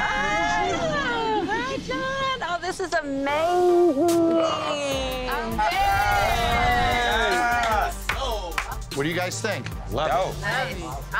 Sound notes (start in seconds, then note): 5.5 all cheering